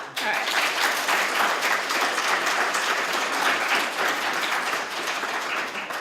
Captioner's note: applause